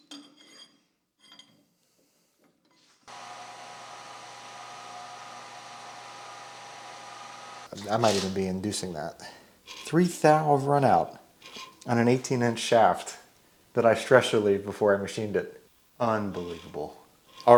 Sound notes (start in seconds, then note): 0.2 metal rod scrapes and clinks against machine; 3.1 machine motor hums